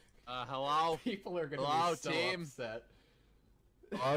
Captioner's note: laughing